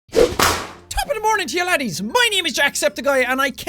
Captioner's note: whapoosh